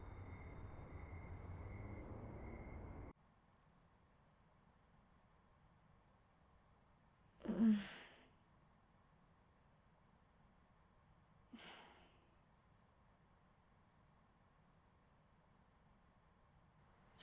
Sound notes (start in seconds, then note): 0.0 crickets chirping; 7.5 Tilly groaning